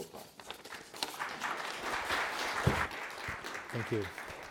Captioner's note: audience applauding